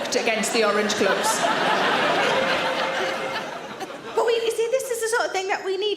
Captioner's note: audience laughs